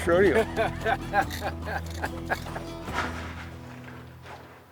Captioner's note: Baratunde laughing